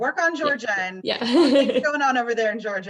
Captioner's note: laughs